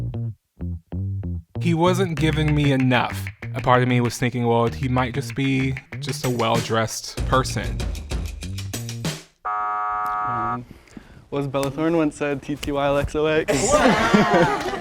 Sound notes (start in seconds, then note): 9.4 buzzer buzzes; 13.5 all chuckle